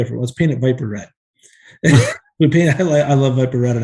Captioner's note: chuckles